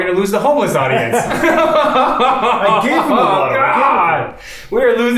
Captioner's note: both laughs